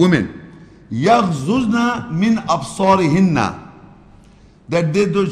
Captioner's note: Arabic